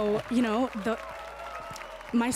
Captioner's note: applause and cheers